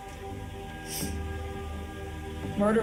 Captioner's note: sniffling